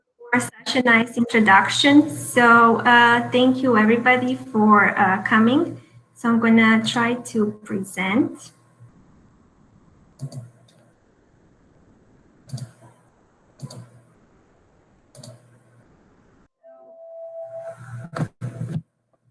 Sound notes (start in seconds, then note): 10.1 computer clicks